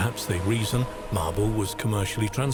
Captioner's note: waves crashing